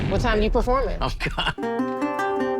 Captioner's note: chuckles; soft guitar music